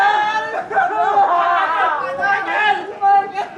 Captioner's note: shouting